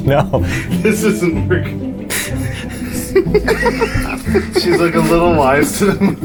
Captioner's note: laughing